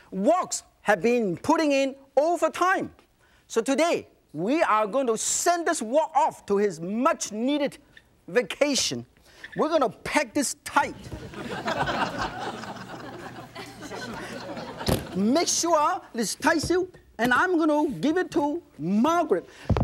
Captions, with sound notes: woks have been putting in overtime! So today, we are going to send this wok off to his much needed vacation. We're gonna pack this tight- (audience laughs) - Make sure it's tight, and I'm going to give it to Margaret.